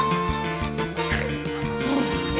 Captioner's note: snorts; blubbers lips